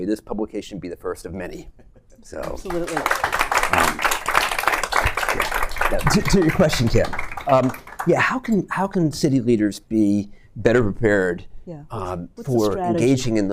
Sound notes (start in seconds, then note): 2.4 applause